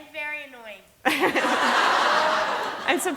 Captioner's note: laughter